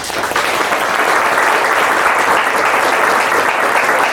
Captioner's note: audience claps